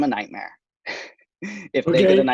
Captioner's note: laughs